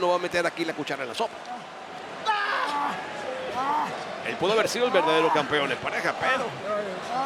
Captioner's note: applause